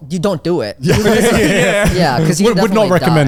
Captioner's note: all laughing